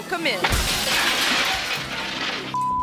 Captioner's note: glass shattering; beep